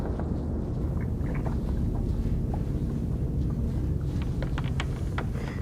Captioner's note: sound of flies and bones rattling